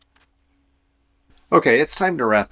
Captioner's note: silence